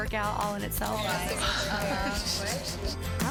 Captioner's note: laughing